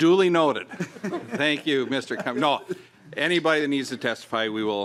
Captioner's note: laughing